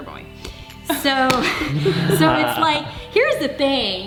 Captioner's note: laughing